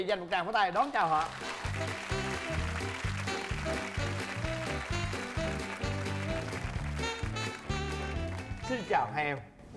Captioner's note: applause